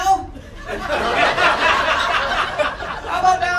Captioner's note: audience laughter